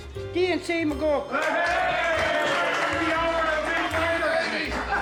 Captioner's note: luid juicht